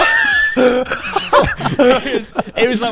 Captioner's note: all laughing; chuckling